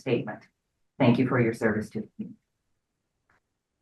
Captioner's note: speaks faintly